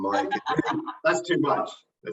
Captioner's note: laughs